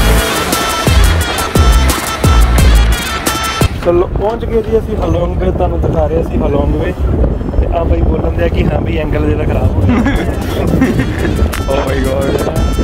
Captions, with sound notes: We have reached Halong Bay, now we are showing you the Halong Bay. This Gimble(BEEPING) is telling me that your angle is going to be ruined ... Oh my god ...